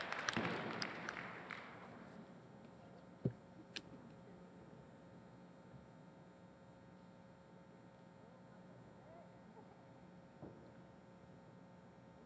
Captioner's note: applause